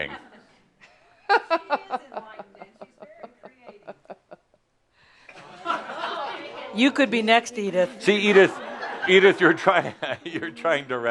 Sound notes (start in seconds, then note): 1.3 she chuckles; 3.0 some chuckles; 8.0 more laughter